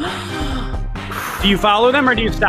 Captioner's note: gasping